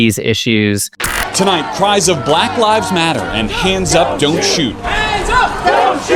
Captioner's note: crowd chanting